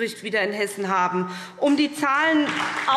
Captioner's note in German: Beifall SPD und DIE LINKE